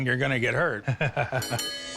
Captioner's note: laughs